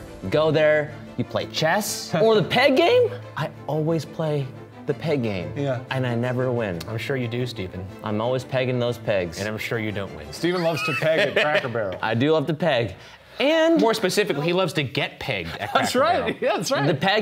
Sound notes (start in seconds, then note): 10.5 laughing; 15.5 laughing